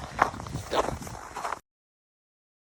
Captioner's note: wind gusts; snow crunches underfoot; snow crunching underfoot cuts off